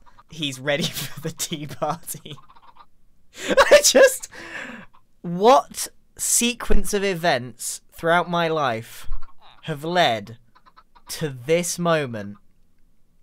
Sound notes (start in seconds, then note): 3.4 laughs